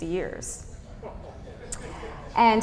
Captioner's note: guffaws